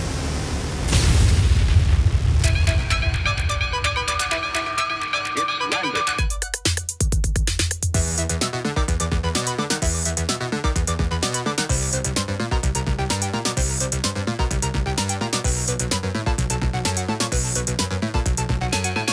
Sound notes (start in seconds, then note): 0.0 explosion rumbling; 2.8 jaunty electronic music; 6.9 jaunty electronic music